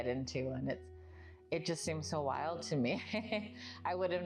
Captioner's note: laughs